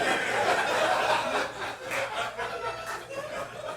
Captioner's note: audience laughing